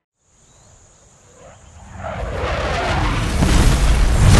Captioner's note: whooshing object zooming; echoing boom